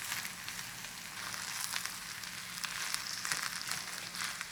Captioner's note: food sizzling